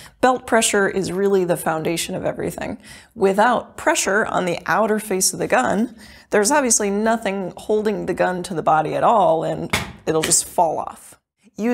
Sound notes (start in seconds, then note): 9.7 gun thumping